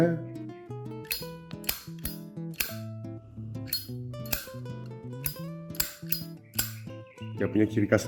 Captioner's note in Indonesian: Zippo Cling / Click sound